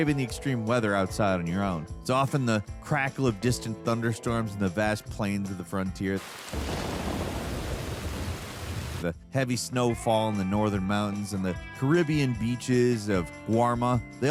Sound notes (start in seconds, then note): 6.1 rain pouring; 6.2 thunder roaring